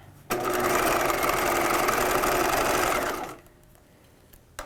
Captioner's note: machine whirring